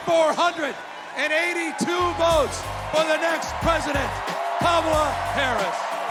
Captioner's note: cheers and applause